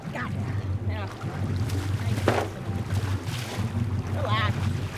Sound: fish splashing

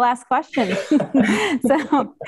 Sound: all laughs

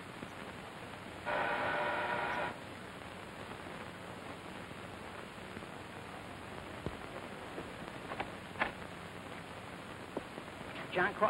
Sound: buzzer

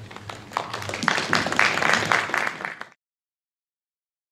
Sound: applause

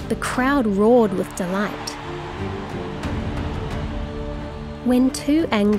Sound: crowd cheering

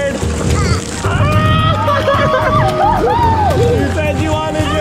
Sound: laughs

